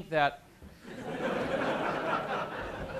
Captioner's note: laughter